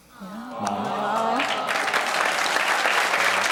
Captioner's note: clapping